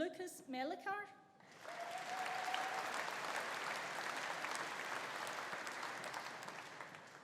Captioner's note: audience applauding; audience cheering